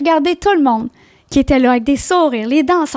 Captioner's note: in french